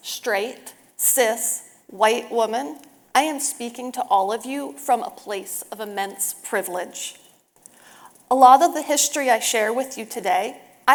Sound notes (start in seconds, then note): none